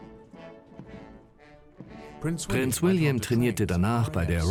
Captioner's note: voiceover